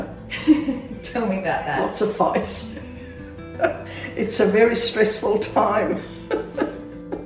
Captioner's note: laughs